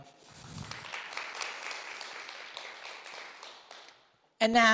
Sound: audience clapping

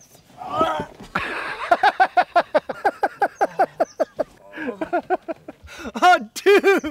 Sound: laughing

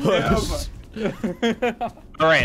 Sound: laughter

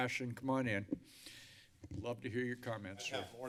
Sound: inhales

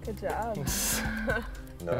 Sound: laughter

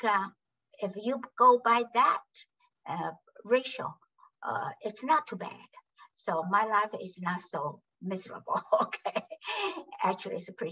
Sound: laughs

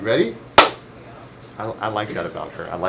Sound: hands clapping

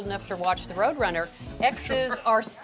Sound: laughs

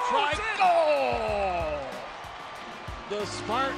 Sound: crowd cheers

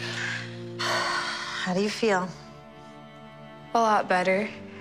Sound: both breathe deeply

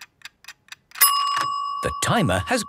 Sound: dinging

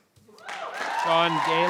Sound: audience cheering

